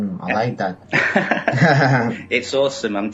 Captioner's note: laughing